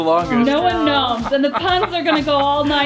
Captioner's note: laughing